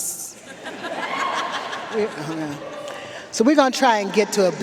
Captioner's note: audience laughing